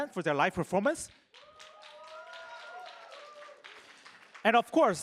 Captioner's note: applause